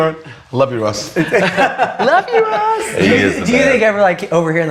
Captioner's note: laughs